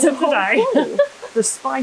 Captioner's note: laughter